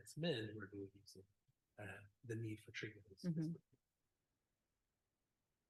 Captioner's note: whispers